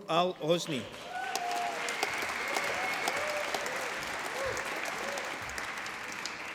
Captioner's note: applause